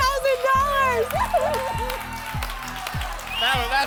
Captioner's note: applause and cheering